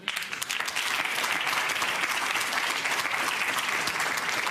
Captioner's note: audience applauds